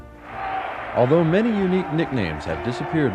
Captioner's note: attendees clamoring